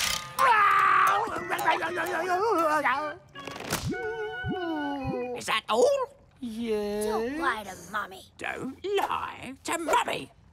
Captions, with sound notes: [groaning] [whimpering] - Is that all? - Yes. - Don't lie to Mommy. - Don't lie to Mommy.